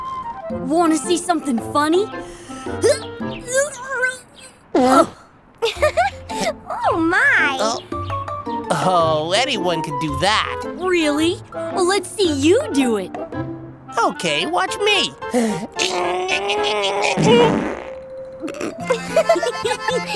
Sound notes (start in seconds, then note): 2.8 toots; 5.6 laughing; 15.8 passes gas; 18.4 giggling